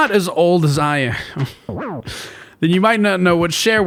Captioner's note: ironic chuckle